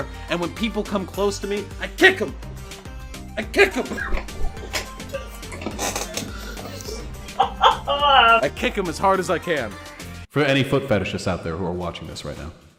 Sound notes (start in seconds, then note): 3.8 cough; 7.3 highyena laughing